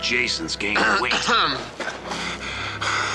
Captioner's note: Ned clearing throat; laughing